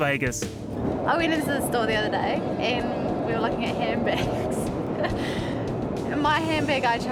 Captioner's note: laughs